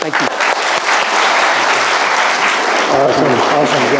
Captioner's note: audience applauding